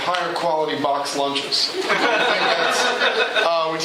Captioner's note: laughter